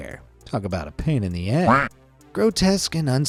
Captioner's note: quack